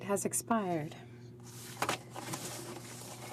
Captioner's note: speaking French